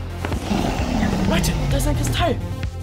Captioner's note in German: Drachenbrüller